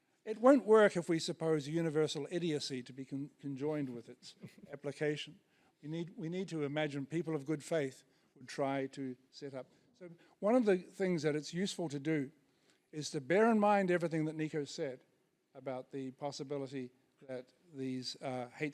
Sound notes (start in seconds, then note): 4.7 laughs